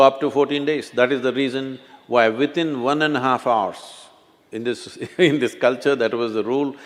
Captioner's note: laughs